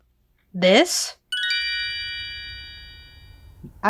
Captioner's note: twinkling